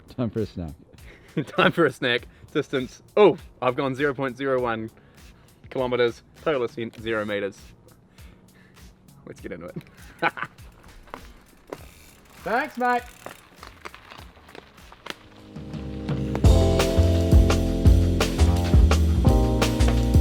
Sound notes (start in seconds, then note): 1.8 laughs; 9.8 laughs; 15.4 upbeat music